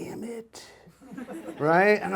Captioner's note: audience laughs